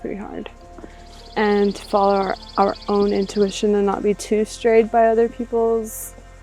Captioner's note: birds chirping